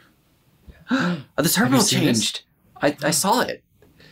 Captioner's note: gasps